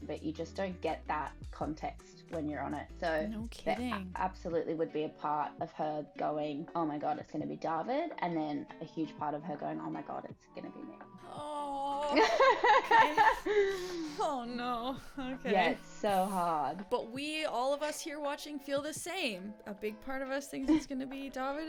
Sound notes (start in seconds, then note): 11.2 groans; 11.9 laughs